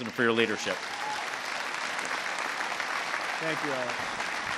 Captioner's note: applause